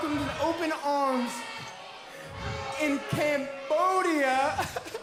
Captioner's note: crowd cheering